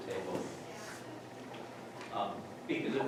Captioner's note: talking quietly